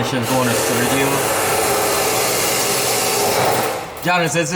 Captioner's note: power tools buzzing